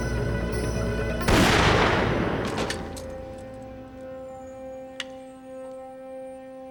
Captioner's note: gunshot blasts; body thuds